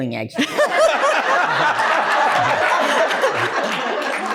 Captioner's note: laughter